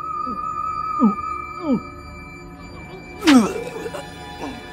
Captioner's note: chief retching